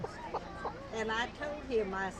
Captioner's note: laughs